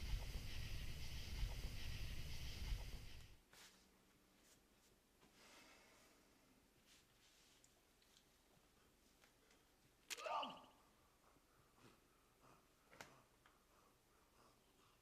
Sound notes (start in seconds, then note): 10.2 man groans